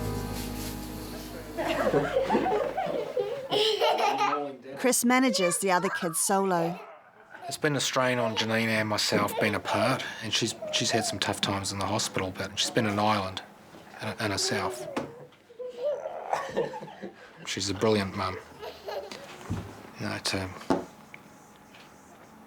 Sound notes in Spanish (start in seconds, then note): 0.0 Música triste; 1.5 Risas; 16.3 Risas